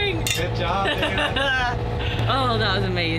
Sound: laughs

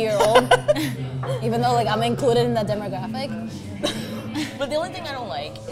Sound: laughs; chuckles

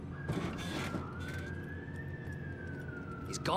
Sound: sirens blaring in distance

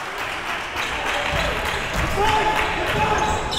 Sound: applause

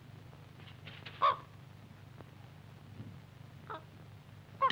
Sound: bird cawing

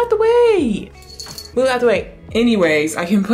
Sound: collar jingling

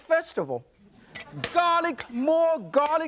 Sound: audience laughs

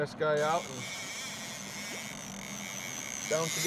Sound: reel spinning

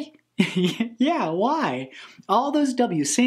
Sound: laughs

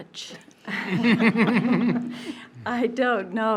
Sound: board members laughing

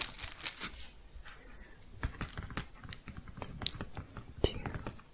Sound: tapping

